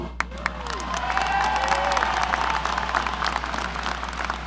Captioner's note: audience applauding